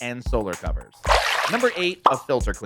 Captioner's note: water splashing